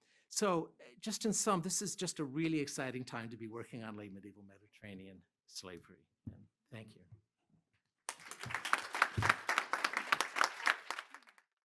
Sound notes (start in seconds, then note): 8.0 applause